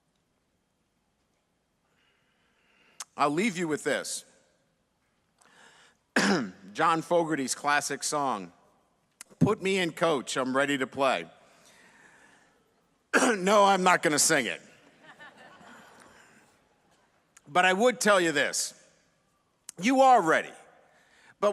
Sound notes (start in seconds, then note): 14.9 audience laughs